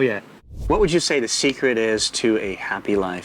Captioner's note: air whooshing